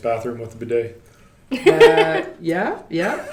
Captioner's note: laughing